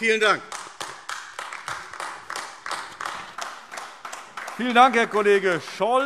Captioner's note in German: Beifall AfD